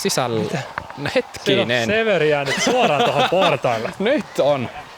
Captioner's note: laughter